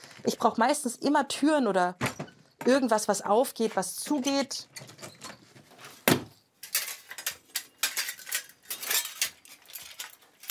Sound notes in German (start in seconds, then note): 4.7 Quietschen; 7.5 Metallisches Scheppern